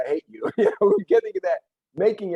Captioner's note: laughs